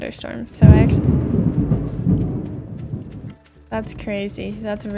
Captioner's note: thunder